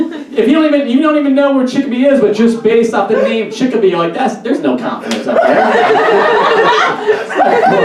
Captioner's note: audience Laughs